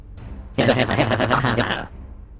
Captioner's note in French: rire